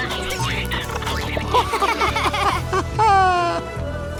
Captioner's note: laughing